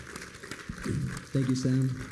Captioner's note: applause